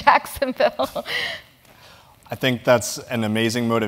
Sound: laugh

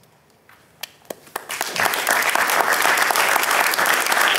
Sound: audience clapping

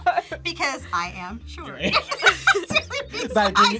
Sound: group laughs; both laugh

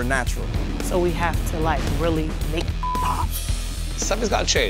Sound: beep

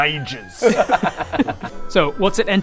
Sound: self-sabotaging giggles

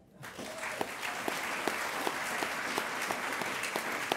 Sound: audience applauding

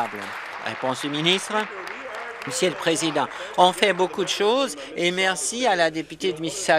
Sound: applause

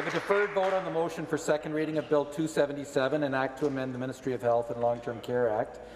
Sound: some Applause

